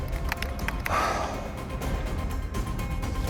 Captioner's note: sighs